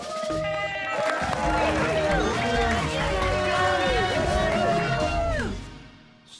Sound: cheers and applause

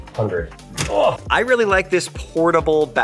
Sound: grunting; switch clicking

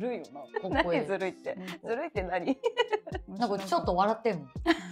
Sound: laughs

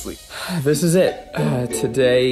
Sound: sighs

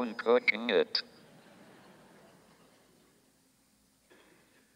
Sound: audience laughs

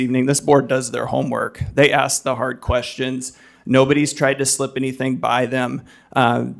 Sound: none

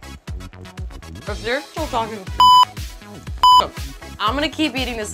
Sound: beep

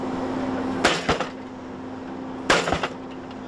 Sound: machine slaps

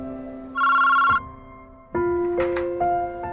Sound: phone rings

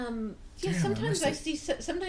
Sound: voiceover

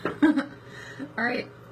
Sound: laughs

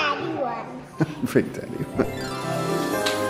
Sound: chuckles; happy music

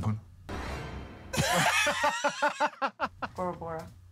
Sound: laughter

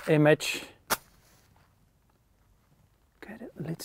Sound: matchbox cracks

